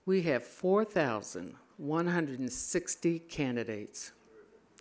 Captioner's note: none